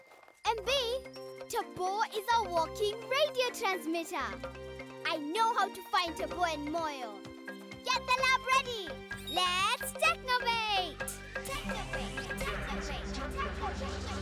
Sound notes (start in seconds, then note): 9.2 beep!; 11.1 echoing